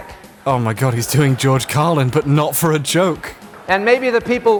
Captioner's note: voiceover, amused